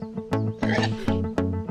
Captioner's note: pig snort